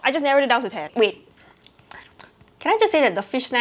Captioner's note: mouth noises